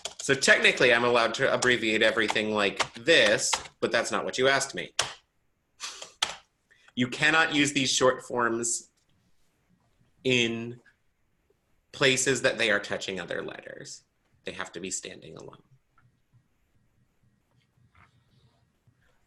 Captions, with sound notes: so technically I'm allowed to abbreviate everything like this, but that's not what you asked me. (chuckles) You cannot use these short forms in places that they are touching other letters. They have to be standing alone.